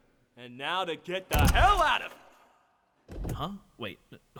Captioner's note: engine crank